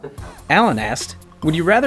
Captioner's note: voiceover